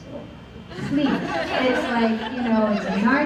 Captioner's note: laughter